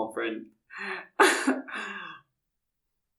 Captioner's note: chuckle